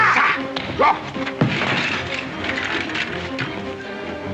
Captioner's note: grunts; crash; sounds of scuffling; suspenseful music